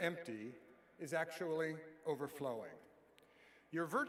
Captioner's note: none